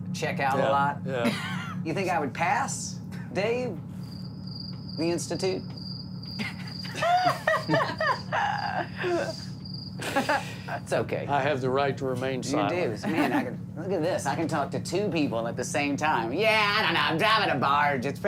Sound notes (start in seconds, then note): 5.7 crickets chirping; 6.4 laughter